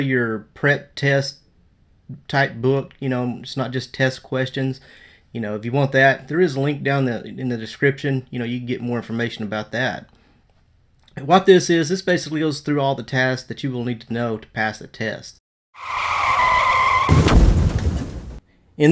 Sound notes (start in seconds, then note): 15.7 tires screeching; 15.9 explosion